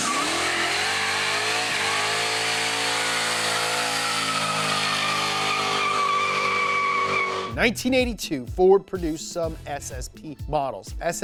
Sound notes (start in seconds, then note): 0.0 engine revving; 4.3 tires squealing